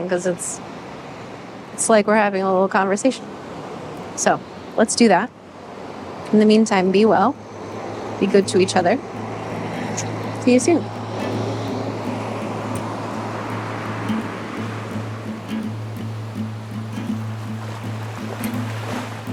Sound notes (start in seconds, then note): 11.3 gentle music; 13.8 waves crashing; 16.6 gentle music